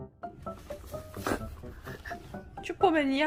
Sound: laughs

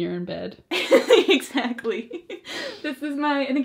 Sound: laughs

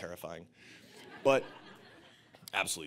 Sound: audience laughing

